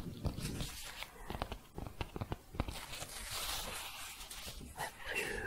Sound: tapping and shuffling

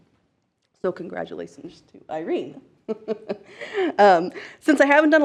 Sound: chuckles

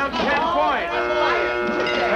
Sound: machine buzzes

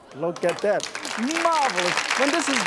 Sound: audience claps

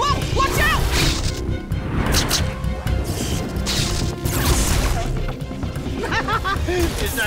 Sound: zapping

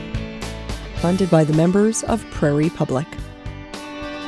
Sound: voiceover

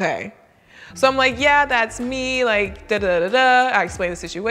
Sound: vocalizes

